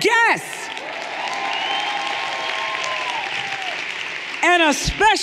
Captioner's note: everyone applauding and cheering